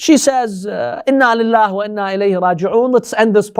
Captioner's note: Arabic